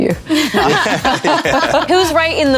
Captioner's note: all laughing